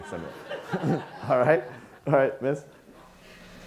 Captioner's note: audience laughing